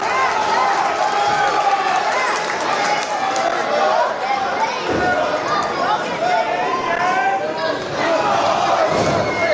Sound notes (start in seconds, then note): 3.3 crowd cheering